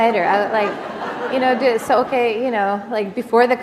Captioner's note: laughter